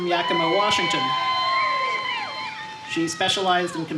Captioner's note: cheering